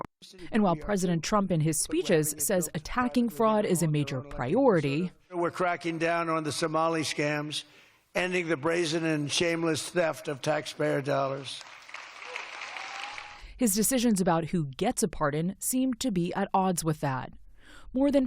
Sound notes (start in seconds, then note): 11.6 cheering